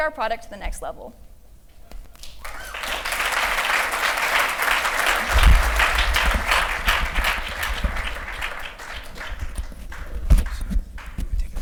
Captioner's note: applause